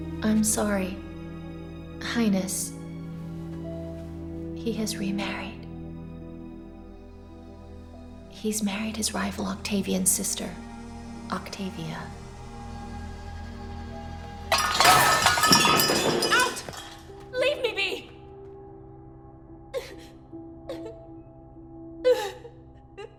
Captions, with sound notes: - I'm sorry, Highness. He has remarried. He's married his rival Octavian's sister, Octavia. (objects clattering) - Out! Leave me be! (Cleopatra sobbing)